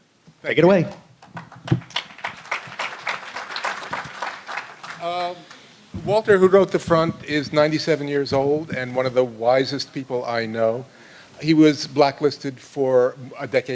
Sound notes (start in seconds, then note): 5.2 applause